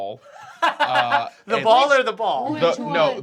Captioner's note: Riz laughs